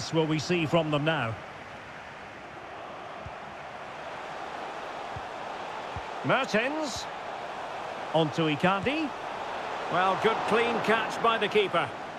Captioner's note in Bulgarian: Аплодисменти